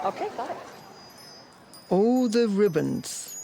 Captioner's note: chimes twinkling